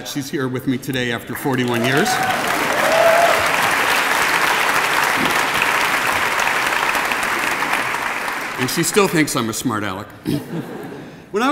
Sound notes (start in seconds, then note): 1.4 applause